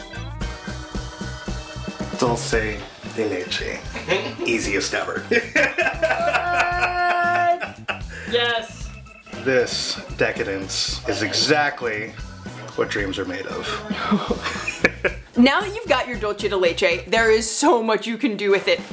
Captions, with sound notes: Dulce de leche! Easiest ever! *laughter* Yes!!! This decadence is exactly what dreams are made of. Now you've got your dulce de leche, there's much you can do with it,